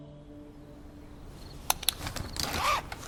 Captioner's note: clicking pen